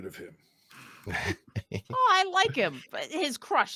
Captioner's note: laughs